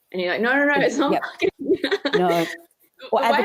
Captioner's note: laughs